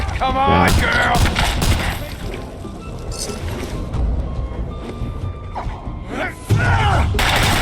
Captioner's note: gunshots